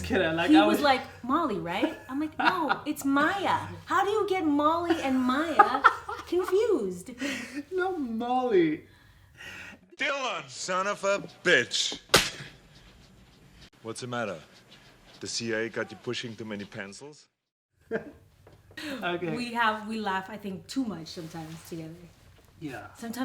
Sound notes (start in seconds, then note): 4.9 laughing; 12.2 hands clapping